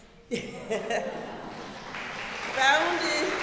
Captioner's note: laughing; audience applauding